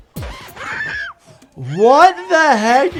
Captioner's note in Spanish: continúa la música funky; persona grita